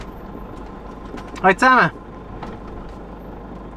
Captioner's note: in Swiss German